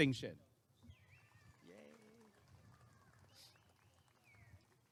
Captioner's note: applause and cheering